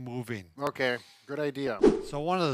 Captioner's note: scene swooshes